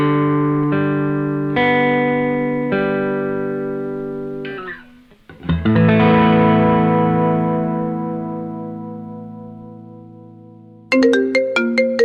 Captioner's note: phone Ringing